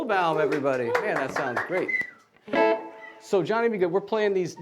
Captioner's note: applauding